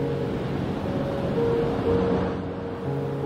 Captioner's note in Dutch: Geluid van golven met achtergrondmuziek